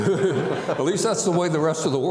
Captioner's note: audience laughing